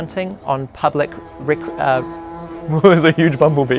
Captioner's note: buzzing